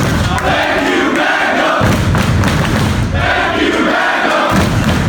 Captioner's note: clapping